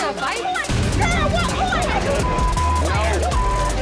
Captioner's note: people shouting indistinct; tense dramatic music; people shouting indistinct